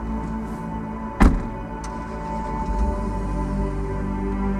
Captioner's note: engine starts; car door closes